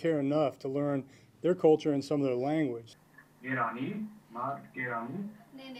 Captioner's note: speaking in Farsi